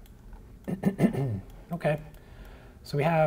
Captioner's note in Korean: 기침